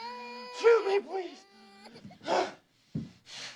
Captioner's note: groaning